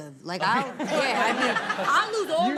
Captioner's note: all laugh